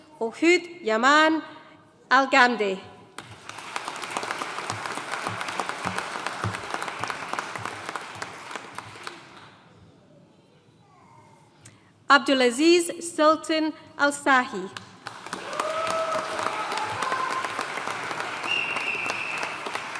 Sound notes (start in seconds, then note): 3.2 audience applauding; 15.0 audience cheering and applauding